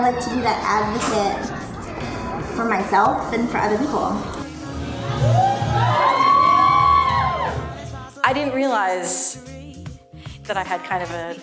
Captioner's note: cheering, applause